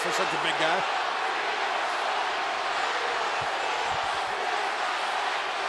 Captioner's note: crowd chanting